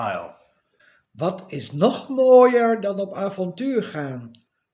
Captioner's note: reading in ducth